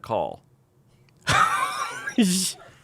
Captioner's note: laughs